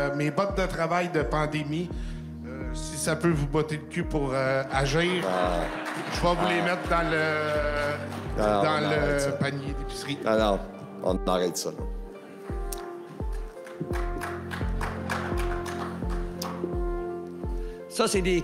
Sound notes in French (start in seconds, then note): 4.8 applaudissements; 13.2 quelques applaudissements